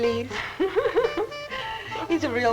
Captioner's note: laughing